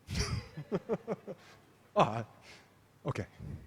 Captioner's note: laughs